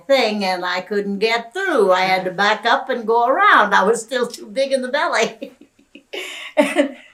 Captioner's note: laughs